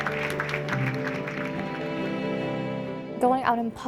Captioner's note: applause